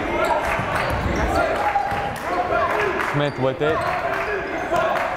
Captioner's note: chanting; clapping